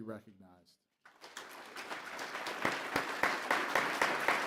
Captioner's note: applause